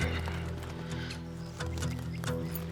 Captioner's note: sighs